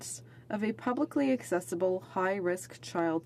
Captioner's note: speaking French